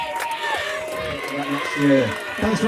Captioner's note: rambunctious cheering